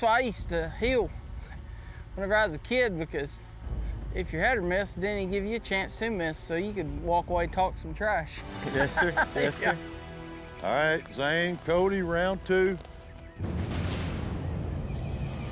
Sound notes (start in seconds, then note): 8.6 chuckling